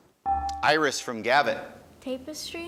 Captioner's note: buzzer dinging